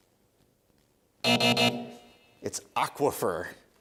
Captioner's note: buzzer